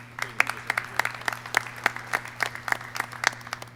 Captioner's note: clapping